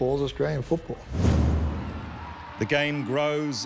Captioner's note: crowd cheering